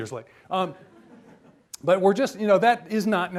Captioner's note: audience laughs